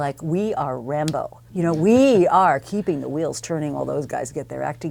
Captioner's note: laugh